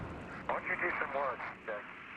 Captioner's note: astronauts talking on radio